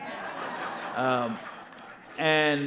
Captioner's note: audience laughing